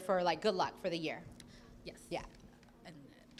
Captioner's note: none